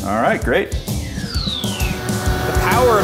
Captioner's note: descending drop whistle